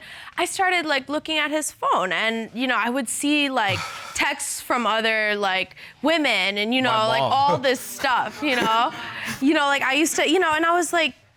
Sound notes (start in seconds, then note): 3.6 sighs; 7.0 chuckles